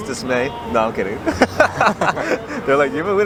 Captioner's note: laughs